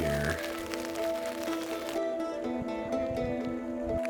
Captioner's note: rain falling